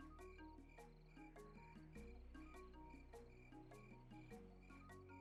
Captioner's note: crickets chirping